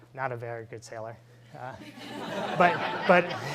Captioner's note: laughing